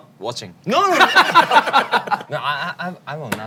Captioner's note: denying